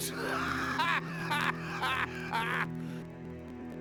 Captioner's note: dead collector laughs